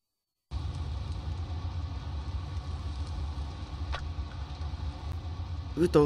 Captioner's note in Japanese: 雨音：ザアァァー･･･